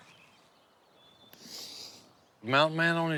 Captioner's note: sniffing